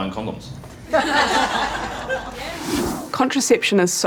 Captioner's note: laughter